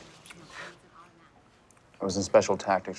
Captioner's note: chuckles